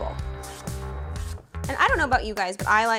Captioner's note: knife slicing